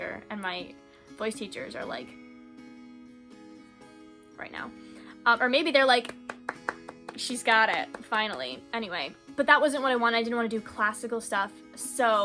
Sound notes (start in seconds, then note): 6.0 golf claps